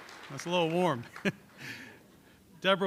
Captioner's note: laughter